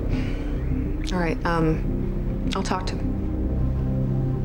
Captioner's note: sighs